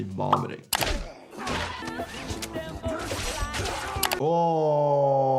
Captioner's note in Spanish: Ambos gruñendo